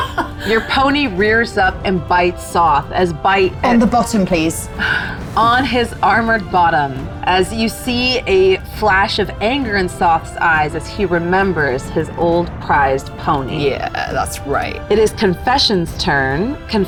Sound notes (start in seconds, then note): 4.7 sighs